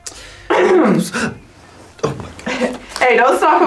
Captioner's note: clears throat